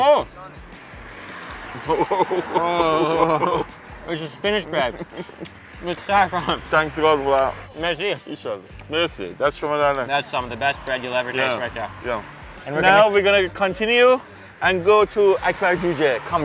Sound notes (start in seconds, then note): 1.7 laughs; 8.8 speaking foreign language